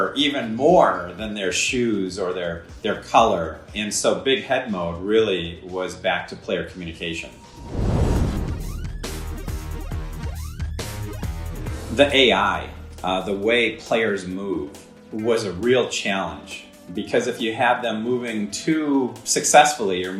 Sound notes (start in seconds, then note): 7.6 fire roaring; 8.9 intense electronic music